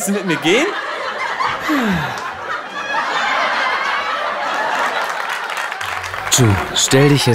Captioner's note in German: Publikumslacher